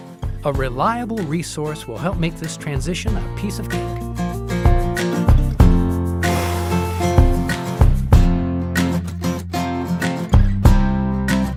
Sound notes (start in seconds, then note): 6.2 blowing; 8.3 bright instrumental music